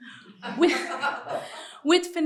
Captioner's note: laughtetr